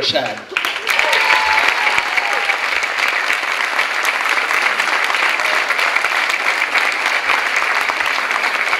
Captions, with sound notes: And it goes to Rowena Pashad. (clapping)